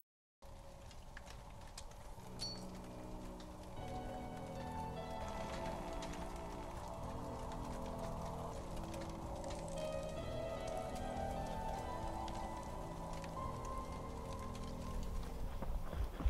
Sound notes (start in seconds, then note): 2.7 foreboding piano music; 5.6 fire crackling